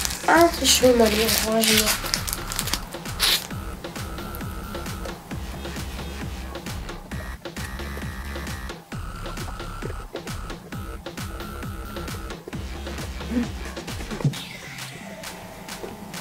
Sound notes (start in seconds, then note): 3.8 nom, nom